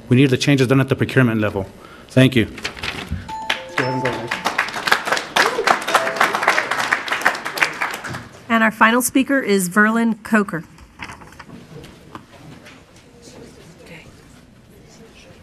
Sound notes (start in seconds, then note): 3.3 musical tone; 3.3 applauding; 8.6 woman's Voice